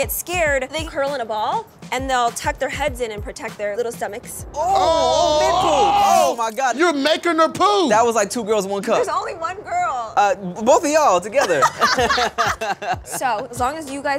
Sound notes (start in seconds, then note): 4.5 guys exclaim; 11.4 laughs